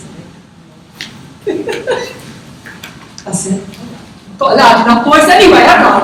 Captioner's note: laughs as she picks up microphone